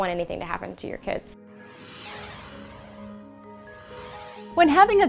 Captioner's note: graphic whooshing